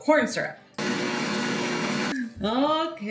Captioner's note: motor whirring